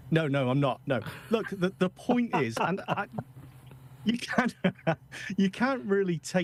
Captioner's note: laughing